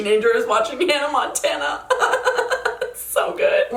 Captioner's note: laughs